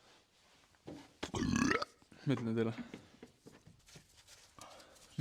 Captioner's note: burp